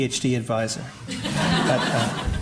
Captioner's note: laughter